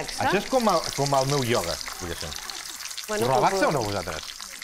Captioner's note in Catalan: béicon fregint-se